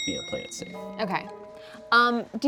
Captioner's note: bell clicking sound